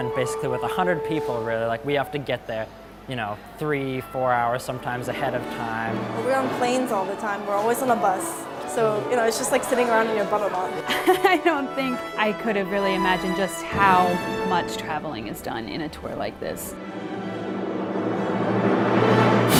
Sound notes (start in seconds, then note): 10.8 laughs